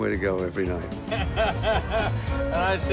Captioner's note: laughing